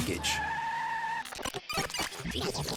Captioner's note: tires screeching